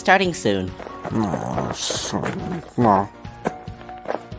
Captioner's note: grumbling